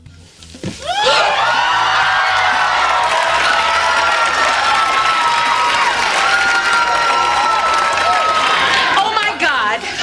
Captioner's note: audience cheers